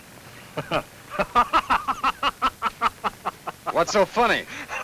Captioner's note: laughs